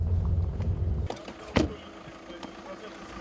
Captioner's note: car door closes